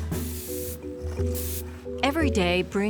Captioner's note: water spraying